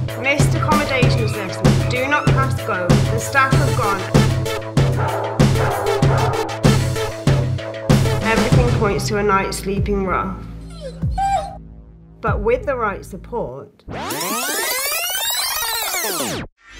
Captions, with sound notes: Missed accommodation assessment: 'Do not pass Go'. The staff have gone. Everything points to a night sleeping rough [Toto whimpers] but with the right support ... [Tape reel rewind sound]